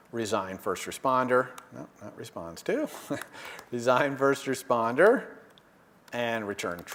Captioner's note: laugh